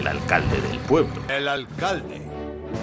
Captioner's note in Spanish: voz en off